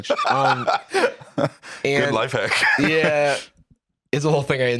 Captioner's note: laughs